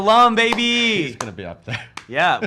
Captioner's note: laughs